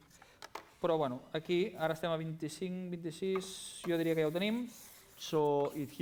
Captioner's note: non-english speech